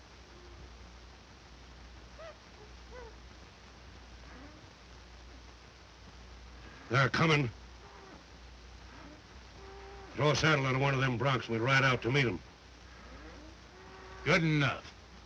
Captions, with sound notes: [animal hoots] They're comin'. Throw a saddle onto one of them broncs. We'll ride out to meet 'em. Good enough.